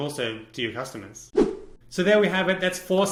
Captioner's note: graphic whooshing